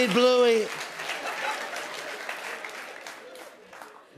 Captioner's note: laughter